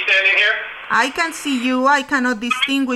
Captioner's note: voiceover